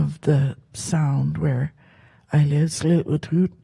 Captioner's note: speaks Halkomelem